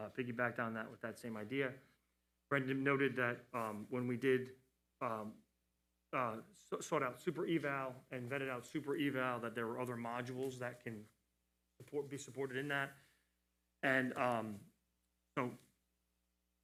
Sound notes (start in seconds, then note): none